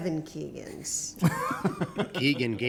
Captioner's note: laughter